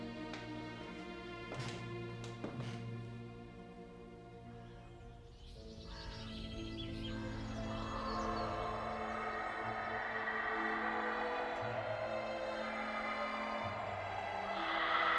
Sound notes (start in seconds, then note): 0.2 soft dramatic music; 4.5 birds chirping; 9.0 screaming echoing